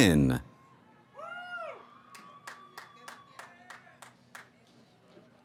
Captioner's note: cheering